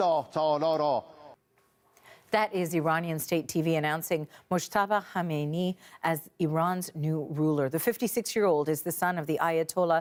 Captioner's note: speaking Alternate Language